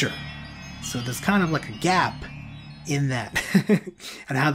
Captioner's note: laughs